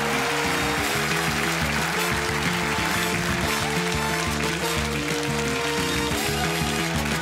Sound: all applauding; upbeat music

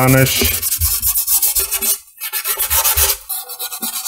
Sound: sandpaper scratches

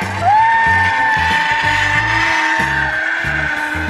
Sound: excited yelling

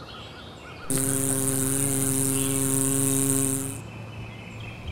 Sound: engine sound

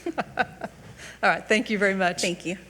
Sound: giggling

